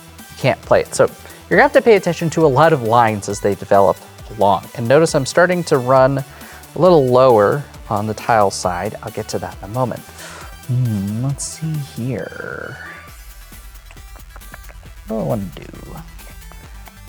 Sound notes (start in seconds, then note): 13.8 clicks tongue